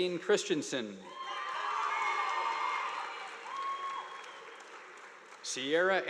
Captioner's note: audience applauding